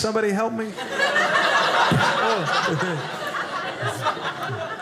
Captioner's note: audience laughing